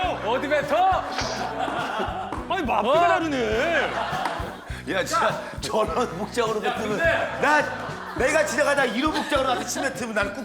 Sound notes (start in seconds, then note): 1.4 yelling